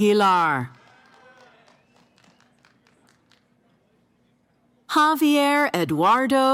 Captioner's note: cheering